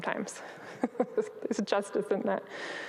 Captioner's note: chuckles